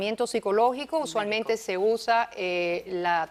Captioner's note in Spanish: murmullos